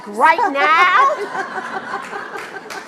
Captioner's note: laughs; applauds